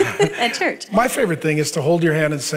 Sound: laughing

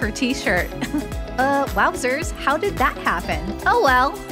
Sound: chuckle

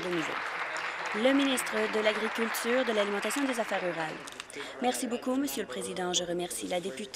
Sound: applause

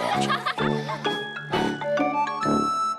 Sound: sigh

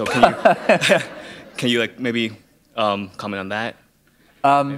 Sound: laughter

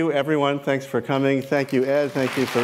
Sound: applause

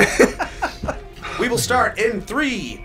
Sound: laugh

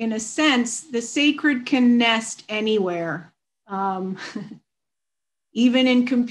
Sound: chuckles

